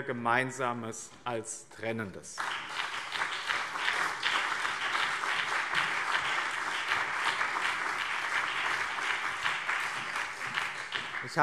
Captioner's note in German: Beifall BÜNDNIS 90/DIE GRÜNEN und CDU